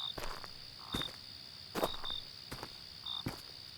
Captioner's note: perhaps frogs croaking